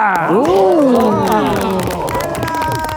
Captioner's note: group applauds